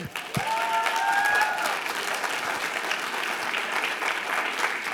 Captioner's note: audience applauding